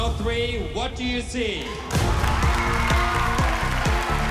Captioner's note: cheering